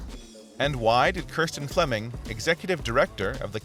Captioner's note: voiceover